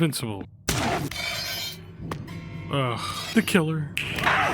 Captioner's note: gun fires; Skull groans